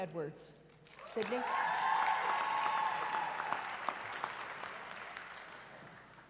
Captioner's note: cheering